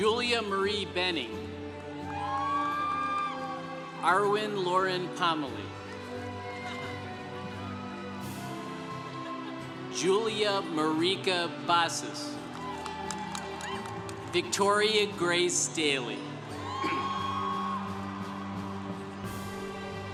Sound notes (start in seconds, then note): 1.7 congregation cheering; 12.6 congregation cheering; 16.8 congregation cheering